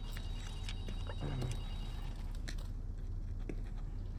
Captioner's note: phone ringing